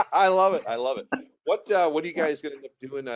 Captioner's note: laughs